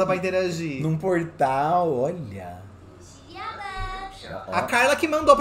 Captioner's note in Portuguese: Sims conversam